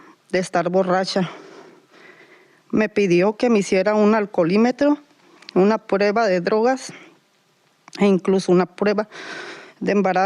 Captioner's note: Spanish